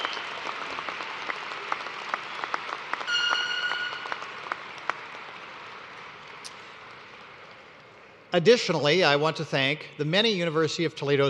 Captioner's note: cheers and applause